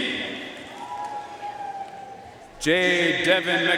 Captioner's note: audience cheering and applauding